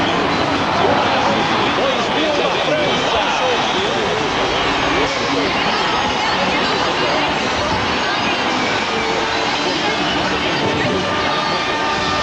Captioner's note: Danish